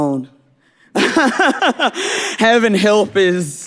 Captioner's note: laughing